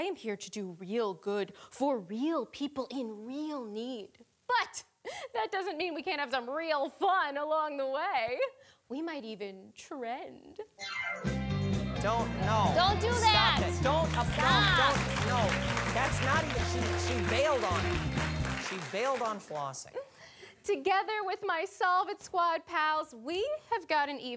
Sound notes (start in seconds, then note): 11.1 funky music; 16.1 audience applauding